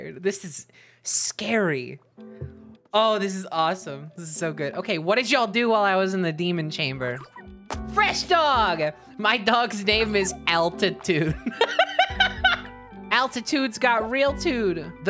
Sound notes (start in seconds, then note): 9.8 laughing